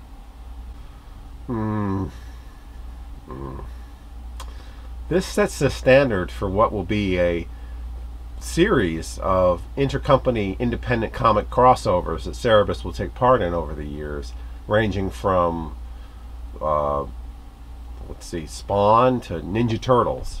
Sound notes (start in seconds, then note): 1.4 disapproving grunt